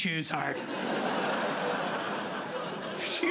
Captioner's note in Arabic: ضحك